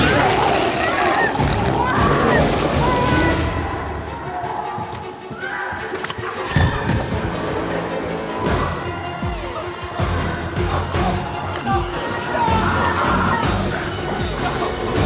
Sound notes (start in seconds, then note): 0.0 biker screams; 6.2 intense music continues; 10.1 biker whimpering